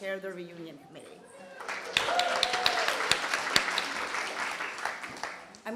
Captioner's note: applause